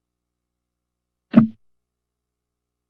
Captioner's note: microphone thud